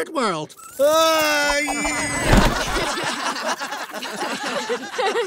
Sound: screams; laughing; laughs

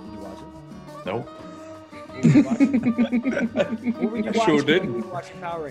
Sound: laugh

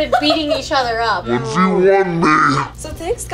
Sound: electronic, slowed down voice

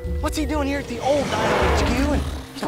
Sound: roars

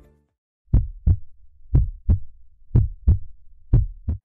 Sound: heart beating

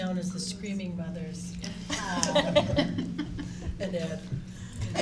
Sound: laughing

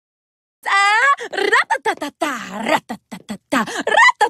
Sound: italian accent

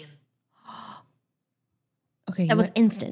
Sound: phone speaking German; gasps

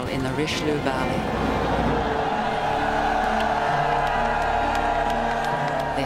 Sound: cheering

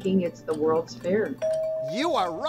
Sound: bell dinging

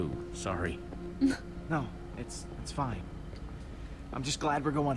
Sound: Sabrina laughs

